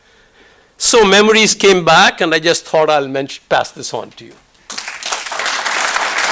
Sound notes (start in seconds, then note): 4.6 applause